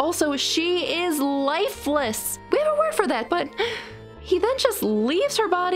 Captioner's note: sigh